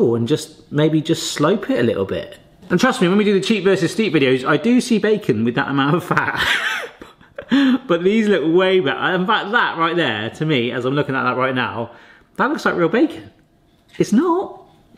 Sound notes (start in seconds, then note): 6.2 laughs